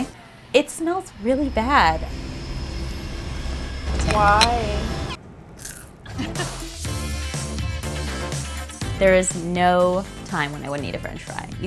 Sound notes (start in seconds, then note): 2.0 eerie music; 3.9 fry crunches; 5.3 woman laughs